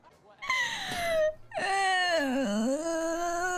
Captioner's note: moaning